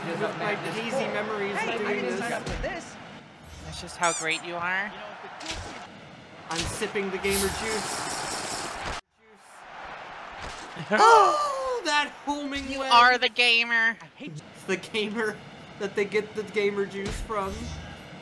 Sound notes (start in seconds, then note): 4.0 squeaky toy noise as Big Slut appears; 7.9 Minecraft sipping noise